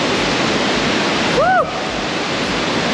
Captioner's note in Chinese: 歡呼